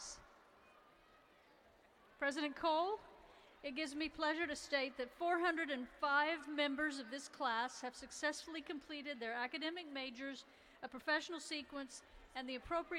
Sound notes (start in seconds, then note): none